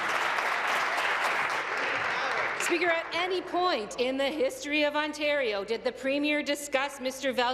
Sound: applause

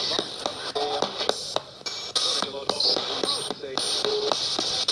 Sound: spirit box buzzing

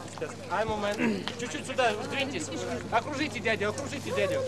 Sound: non-english speech

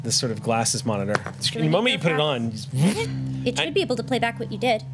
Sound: zips

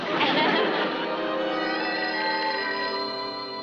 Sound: phone ringing

